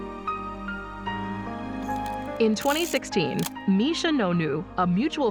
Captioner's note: shutter clicks